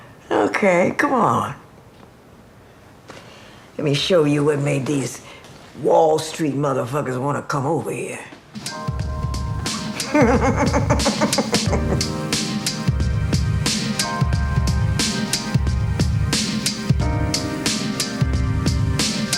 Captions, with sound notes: Okay, come on. Let me show you what made these Wall Street motherfuckers want to come over here. *laughter*